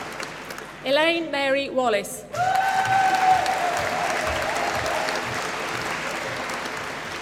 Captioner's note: applause